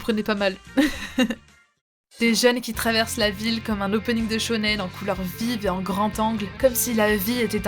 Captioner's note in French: rires